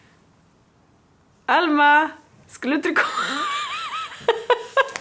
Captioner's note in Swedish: skratt